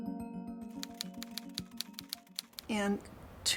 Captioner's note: letters clicking